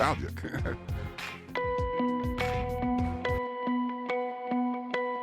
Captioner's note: chuckling; light music